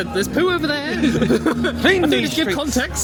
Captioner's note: both laughing